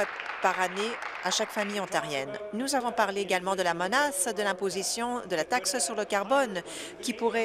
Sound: applause

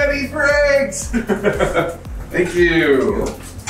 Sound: laughing

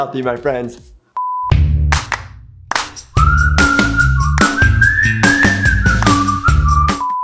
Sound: beep; upbeat instrumental music

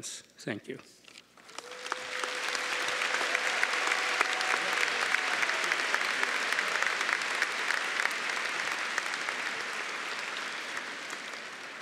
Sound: cheering & Applause

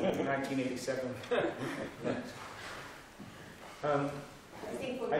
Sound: laughter

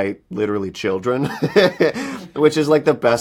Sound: he laughs

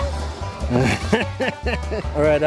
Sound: laughs

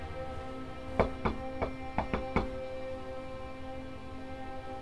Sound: knocking on door

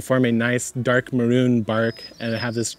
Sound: birds chirp

